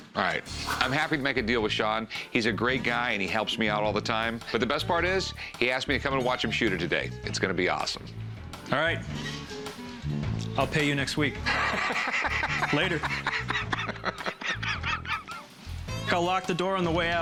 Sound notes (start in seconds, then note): 11.4 laughs; 13.5 laughter continues